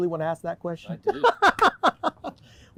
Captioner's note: laughing